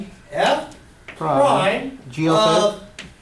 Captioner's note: voiceover